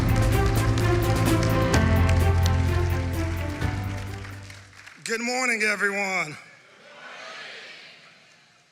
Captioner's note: applause